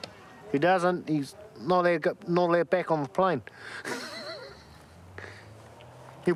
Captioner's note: laughs